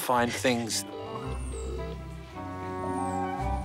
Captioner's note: phone ringing tone